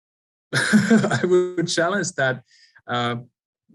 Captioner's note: laughs